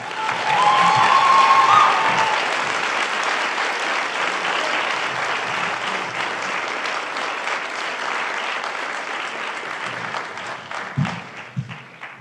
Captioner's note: applause